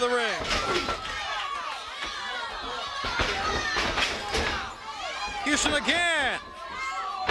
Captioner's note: crowd chatter